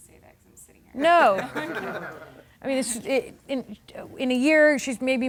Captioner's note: laughing